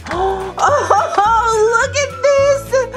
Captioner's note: laughs